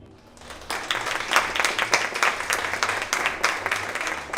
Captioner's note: audience applauds